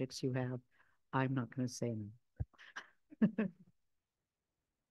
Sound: chuckles

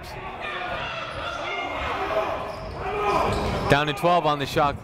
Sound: shouting

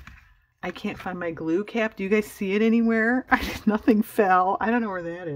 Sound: laughs

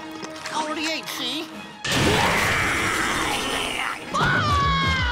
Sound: roaring; screaming

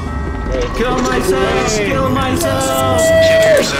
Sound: cheering

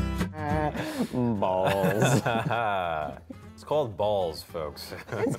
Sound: laughter

